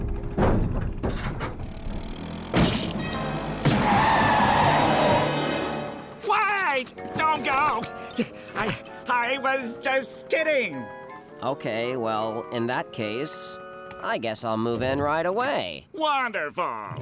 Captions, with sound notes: [thudding] [screeching] Wait! Don't go! I was just kidding. Okay, well, in that case, I guess I'll move in right away. Wonderful.